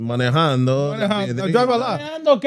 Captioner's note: speaking In Foreign Language